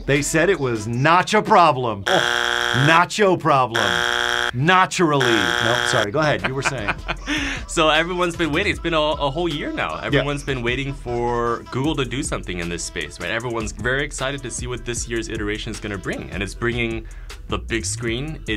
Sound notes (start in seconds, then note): 2.0 buzzer rings; 5.2 buzzer rings; 6.3 laughing